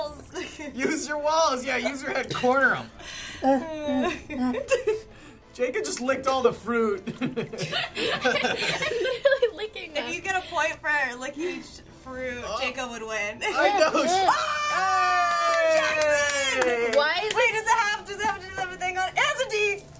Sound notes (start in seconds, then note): 3.4 laughing; 7.0 laughter